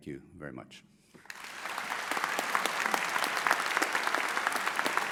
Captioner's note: audience applauds